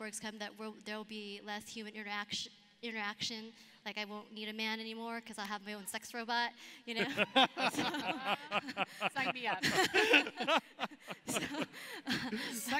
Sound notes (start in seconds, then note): 7.0 laughs